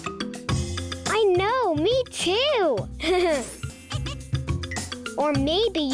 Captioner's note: laughs